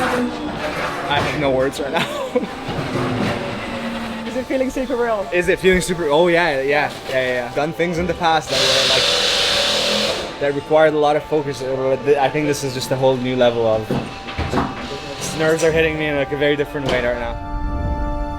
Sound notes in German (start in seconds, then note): 1.5 lacht; 8.4 lautes Schlagschrauber-Geräusch